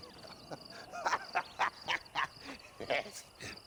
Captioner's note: laughs